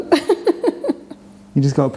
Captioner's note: laughs